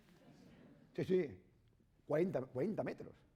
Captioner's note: speaking spanish